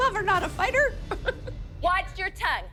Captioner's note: chuckles